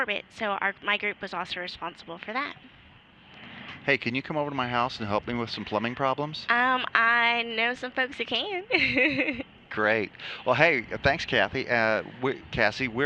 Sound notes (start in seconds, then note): 8.7 laughter